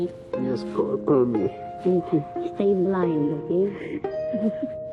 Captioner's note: chuckles